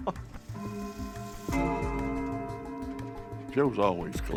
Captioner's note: clock chime